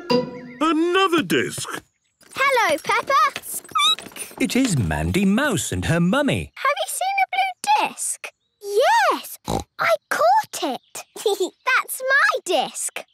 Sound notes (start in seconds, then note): 2.2 squeaking; 9.4 snorting; 10.9 giggling